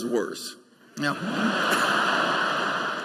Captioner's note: laughter